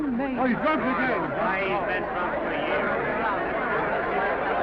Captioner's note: all chattering